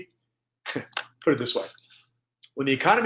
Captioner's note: chuckles